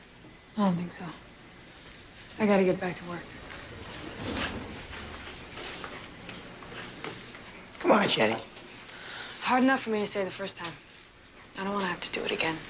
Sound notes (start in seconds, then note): 0.1 elevator bell rings; 2.9 elevator door opens